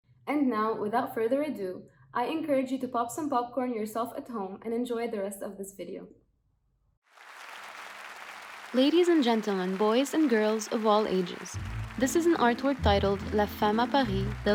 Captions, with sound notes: now without further ado, I encourage you to pop some popcorn yourself at home and enjoy the rest of this video. [Crowd Clapping] Ladies and gentlemen, boys and girls of all ages. This is an artwork titled La Femme a Paris: